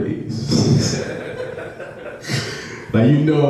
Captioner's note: audience laughs